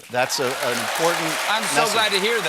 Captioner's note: cheers and applause